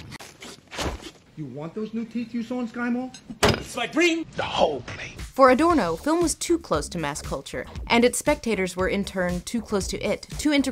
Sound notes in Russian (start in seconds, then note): 3.4 бдыщь